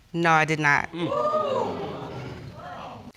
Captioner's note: audience exclaiming